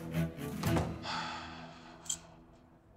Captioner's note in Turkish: İç çeker